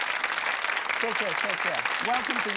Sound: audience applauding; speaking in foreign language

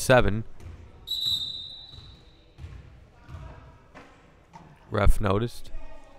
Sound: whistle blowing

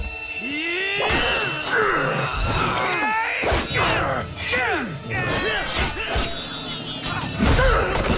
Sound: grunting; grunting

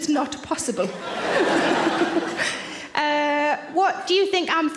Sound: audience laughs; Sarah laughs

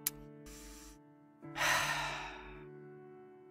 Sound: sigh

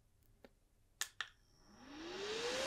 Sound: click

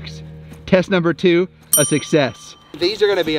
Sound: bell dings

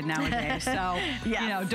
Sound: laughter

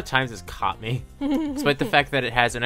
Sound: laughs

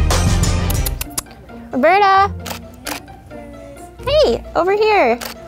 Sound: kissing teeth

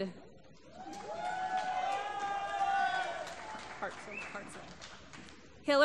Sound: applause

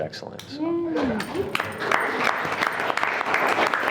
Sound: everyone clapping

